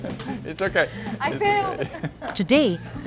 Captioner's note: laughs